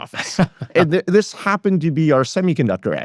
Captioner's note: laughs